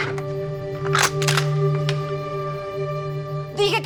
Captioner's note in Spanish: Sonido al enristrar el arma